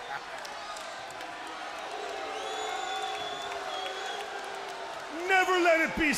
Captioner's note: crowd cheering